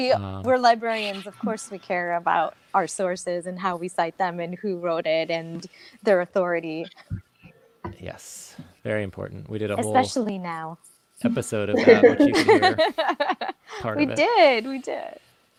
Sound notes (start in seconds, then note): 11.7 both laughs